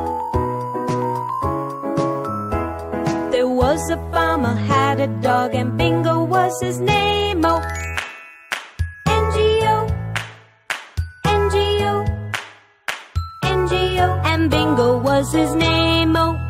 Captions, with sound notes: There was a farmer had a dog, and Bingo was his name-o. (Clap)- (Clap)-N-G-O (clap)-(clap)-N-G-O (clap)-(clap)-N-G-O And Bingo was his name-o.